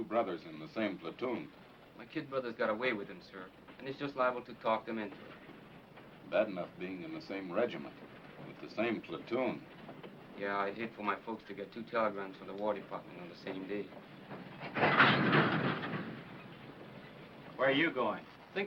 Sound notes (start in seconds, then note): 15.0 cart clanking